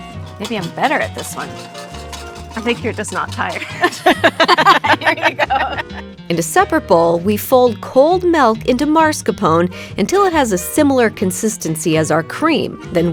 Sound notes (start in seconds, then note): 3.6 both laughing